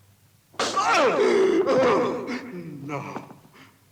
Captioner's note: hard thud; Jeronimus groans